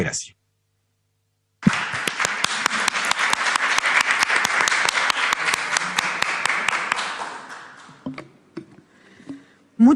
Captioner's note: applauses